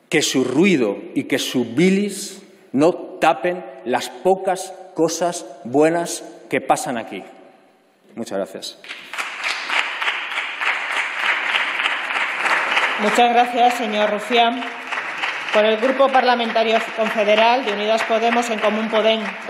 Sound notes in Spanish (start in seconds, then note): 8.0 Aplausos